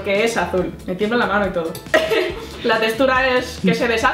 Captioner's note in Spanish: risas